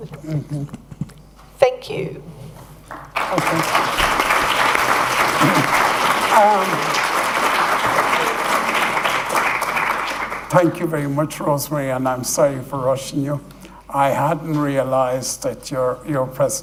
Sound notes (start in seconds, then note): 2.8 applause